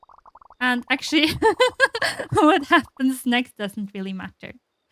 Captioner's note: laughs